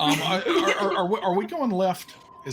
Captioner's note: all laugh